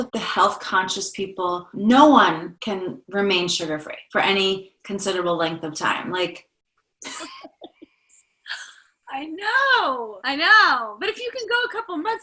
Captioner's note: laughter